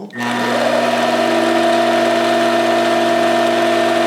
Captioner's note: machine whirring